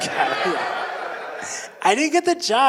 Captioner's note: audience laughing